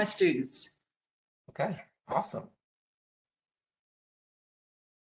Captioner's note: professor speaking